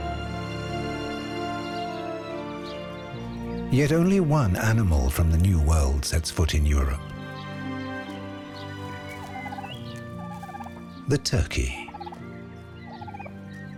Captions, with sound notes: Yet only one animal from the New World sets foot in Europe. [turkey gobbling] The turkey.